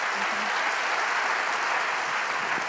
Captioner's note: applause